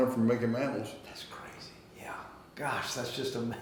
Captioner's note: whispering